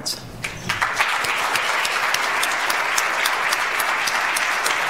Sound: audience applauds

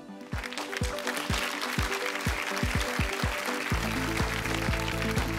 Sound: applause

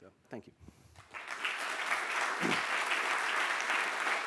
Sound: applause

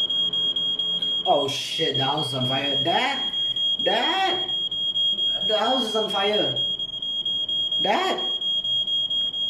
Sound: fire detector alarm beeping

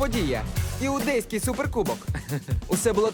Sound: chuckles

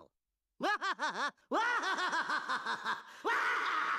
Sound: laughing maniacally

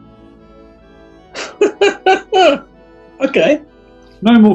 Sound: giggling

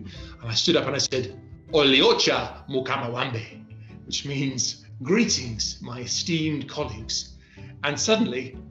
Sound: speaking swahili

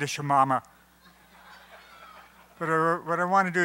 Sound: applause

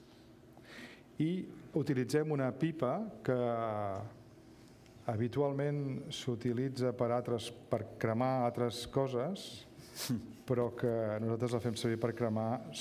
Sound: speaking catalan

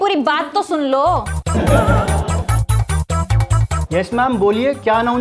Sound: laughing

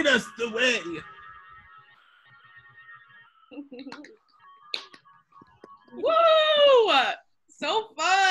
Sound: all clap and cheer

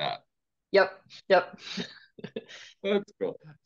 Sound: chuckles

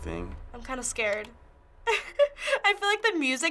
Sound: laughs

